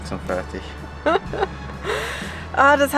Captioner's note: laughter